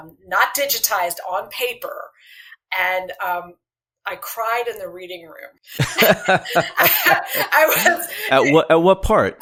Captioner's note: laughter